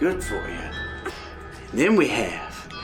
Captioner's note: trying to chew